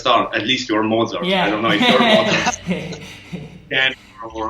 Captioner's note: laughing